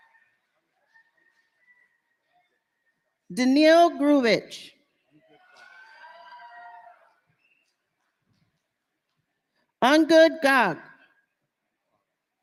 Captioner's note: cheers and applause